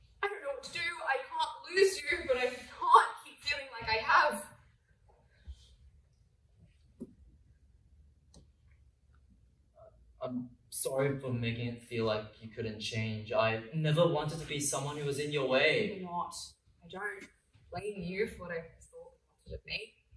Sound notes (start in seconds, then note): none